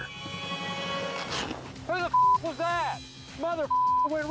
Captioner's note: beep